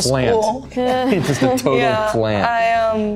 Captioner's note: Maya chuckles